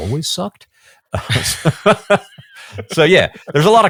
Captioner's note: both laughing